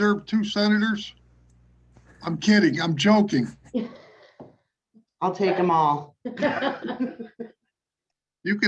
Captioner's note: chuckling